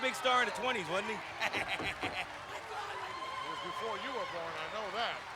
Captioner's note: laughs